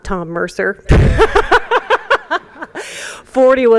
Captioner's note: laughter